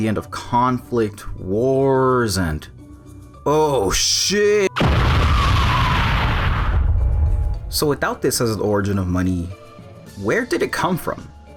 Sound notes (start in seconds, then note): 4.7 explosion!